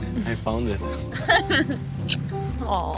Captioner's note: laughs